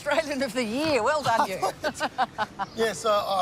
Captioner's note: laughs